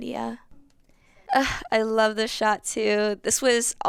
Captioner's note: sighs